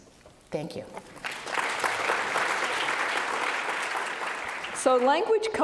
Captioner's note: audience applauding